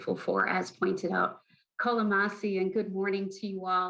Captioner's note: foreign language